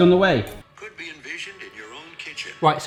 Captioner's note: voice On Phone